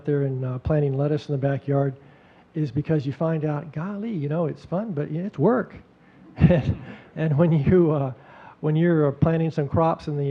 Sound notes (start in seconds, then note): 6.3 audience chuckling